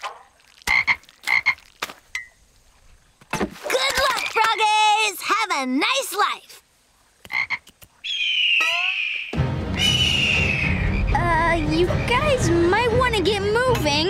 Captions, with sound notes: [croaking] Good luck, frog-ays! Have a nice life! [croaking] [squawking] Uh, you guys might wanna get moving.